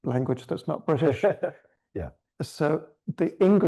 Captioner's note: chuckles